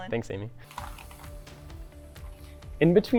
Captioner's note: ice clattering